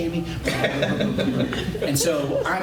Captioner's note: laughter